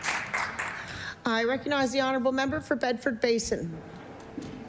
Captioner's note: applause